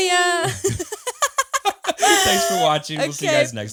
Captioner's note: laughs